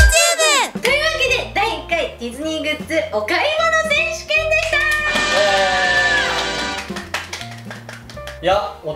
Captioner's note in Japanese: 拍手